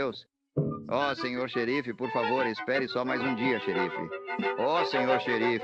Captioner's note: shouting for the sheriff